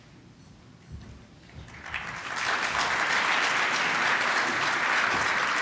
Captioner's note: applause